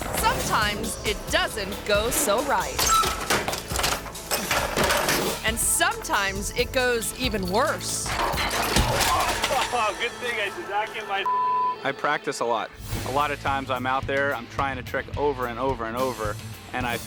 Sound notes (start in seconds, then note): 2.8 bike rattles; 2.8 gate creaks; 7.2 metal clangs; 8.2 thuds and moans; 10.1 laughs